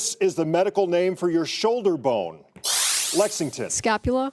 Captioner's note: buzzer